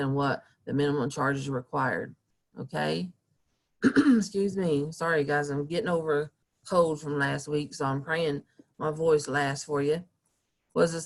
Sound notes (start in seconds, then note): 3.8 clearing throat